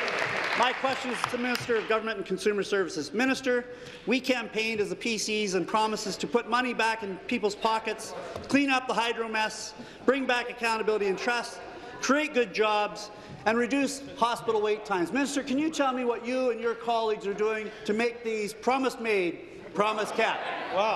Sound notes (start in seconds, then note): 2.3 applause